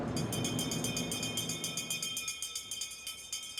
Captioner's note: cowbell rings